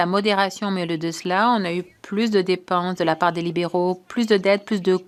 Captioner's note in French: voix de l'interprète